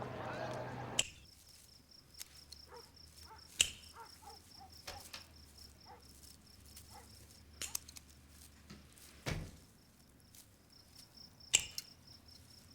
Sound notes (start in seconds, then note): 2.0 shears clipping; 2.6 dog barking; 9.2 door closing